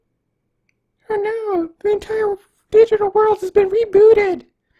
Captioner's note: in an annoying mocking voice